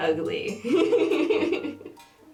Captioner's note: laughter